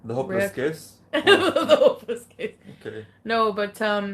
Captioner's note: laughing